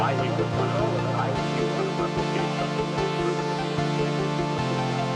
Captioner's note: radio fades out